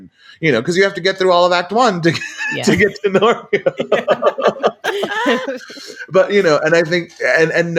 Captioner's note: laughs